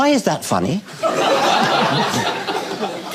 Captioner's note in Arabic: الجمهور يضحك